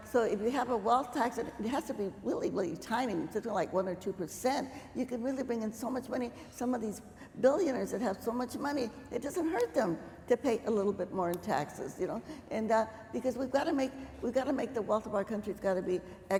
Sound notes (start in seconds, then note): none